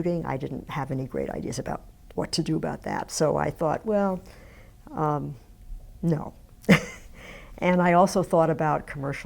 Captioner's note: laughs